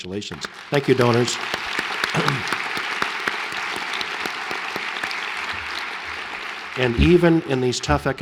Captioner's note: applause